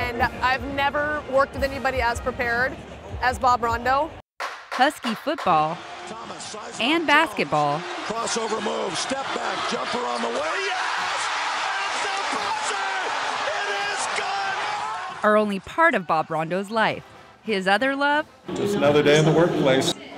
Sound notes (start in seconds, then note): 9.9 cheering